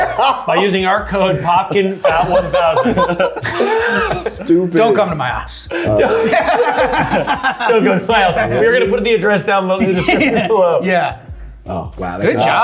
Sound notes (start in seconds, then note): 5.6 everyone laughing